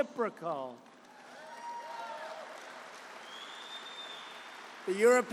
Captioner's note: applause